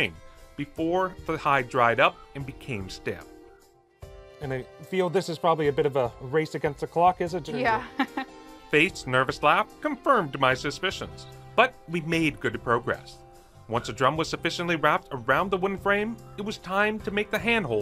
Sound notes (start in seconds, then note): 7.7 chuckling